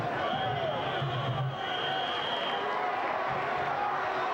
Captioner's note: whistle blowing